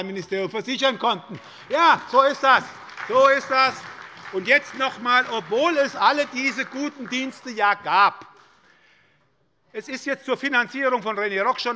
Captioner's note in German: Beifall bei der SPD